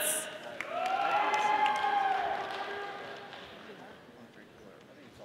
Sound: audience applauding

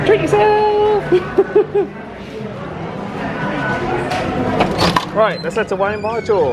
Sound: laughs

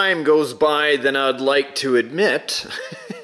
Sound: laughs

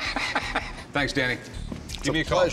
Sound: Rick laughing

